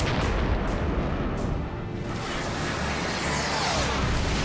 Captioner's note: explosion; explosion